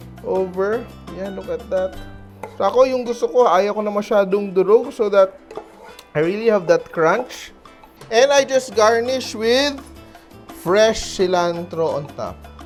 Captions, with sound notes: Over. There, look at that. [Knock] For me, what I want is, -- I don't want it too crushed, so that -- I really have that crunch. And I just garnish with -- fresh cilantro on top.